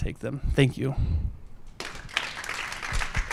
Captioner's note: applause